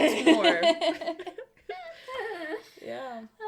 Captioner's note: laughter